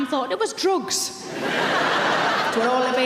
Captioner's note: audience laughing